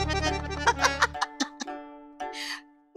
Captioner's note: laughs